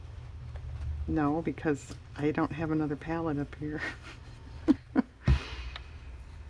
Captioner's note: laughs